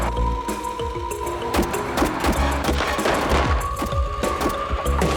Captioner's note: gunshots